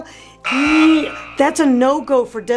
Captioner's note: buzzer buzzing